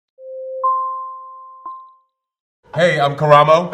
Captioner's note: bell ringing